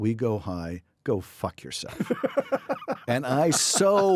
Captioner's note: laughing